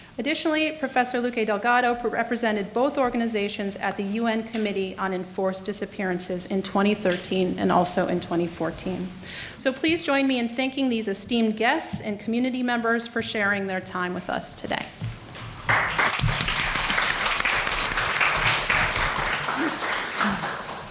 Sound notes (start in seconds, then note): 15.6 applause